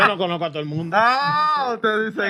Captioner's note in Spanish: Hablando en idioma extranjero